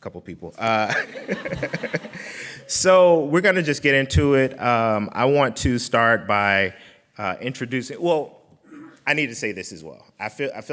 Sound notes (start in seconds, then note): 0.8 laughing